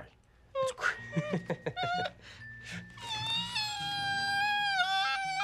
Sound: Chang crying

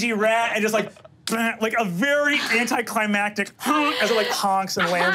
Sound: honks

